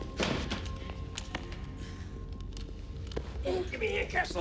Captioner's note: suspenseful music continues; guns thud